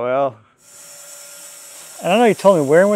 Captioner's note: saw whirring